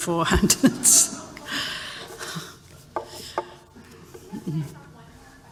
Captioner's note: laughter